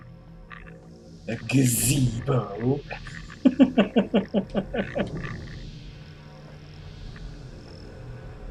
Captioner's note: chuckles